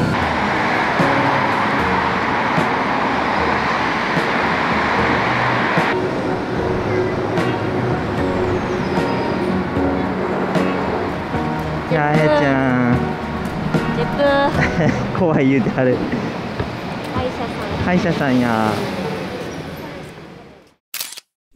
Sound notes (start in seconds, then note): 14.2 laughs